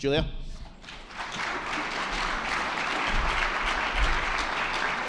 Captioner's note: attendees clapping